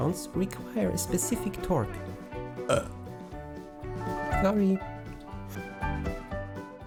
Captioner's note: burps